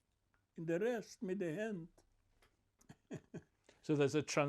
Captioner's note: laughing